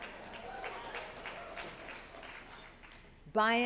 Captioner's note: applause